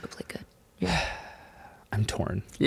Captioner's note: sighs